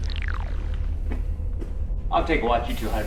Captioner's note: device crackling